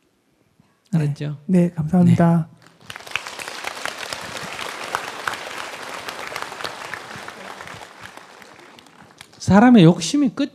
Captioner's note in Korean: 청중 박수